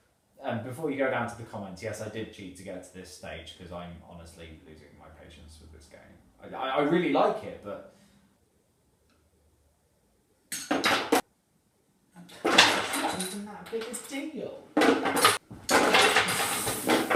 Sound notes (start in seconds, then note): 10.7 sound of clutter; 12.3 sound of clutter; 14.8 sound of even more bloody clutter; 15.6 sound of more bloody clutter